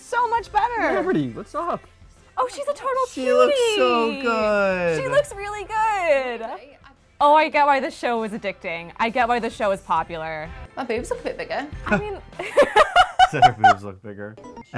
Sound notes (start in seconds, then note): 12.4 laughs